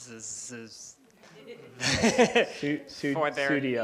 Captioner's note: laughter